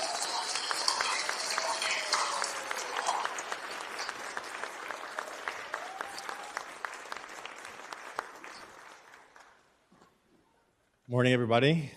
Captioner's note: applause